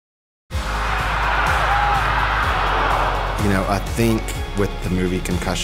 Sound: crowd cheering

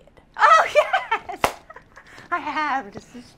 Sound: laughs

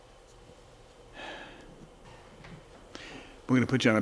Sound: sighs

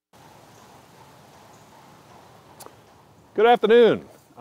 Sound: distant hoof beats

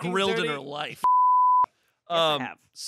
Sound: beep

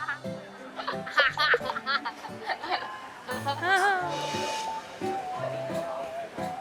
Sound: laughs

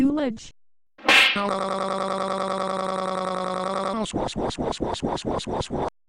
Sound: slapping noise

